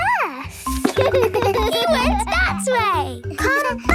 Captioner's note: giggles